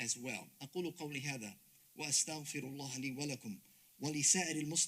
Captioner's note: speaks Arabic